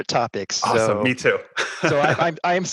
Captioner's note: laughs